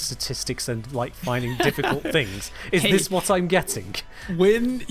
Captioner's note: laughs